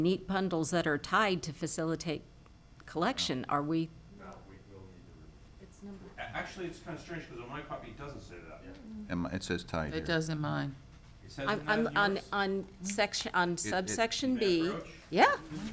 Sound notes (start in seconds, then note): 4.6 speaking distantly